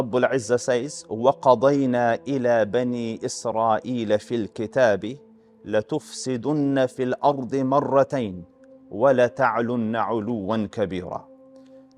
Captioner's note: Arabic